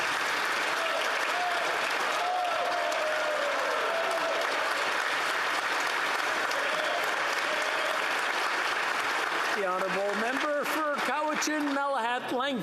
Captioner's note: applause